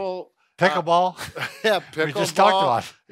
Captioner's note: chuckle